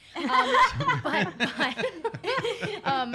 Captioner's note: laughs